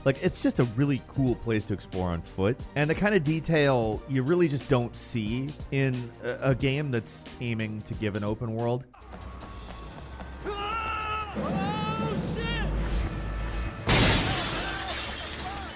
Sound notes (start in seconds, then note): 10.4 bystander screams; 13.8 glass shatters